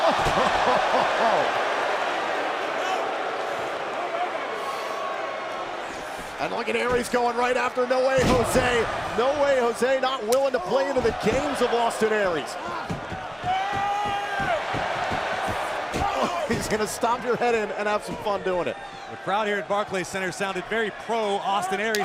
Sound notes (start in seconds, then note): 15.0 crowd cheering